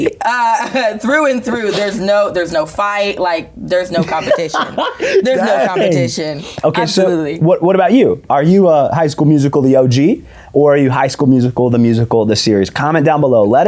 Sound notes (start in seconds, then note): 3.8 laughs